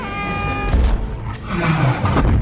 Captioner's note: slams against wall